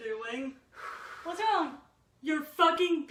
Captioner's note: heavily breathing